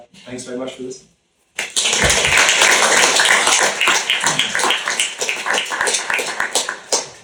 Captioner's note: applause